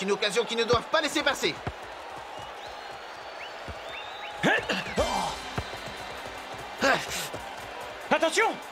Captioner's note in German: beifall